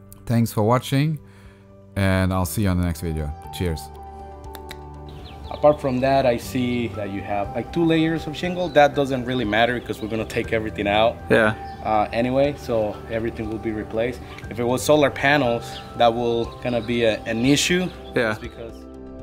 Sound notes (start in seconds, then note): 4.4 tongue clicking